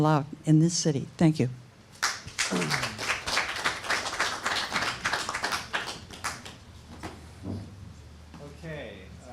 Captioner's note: applause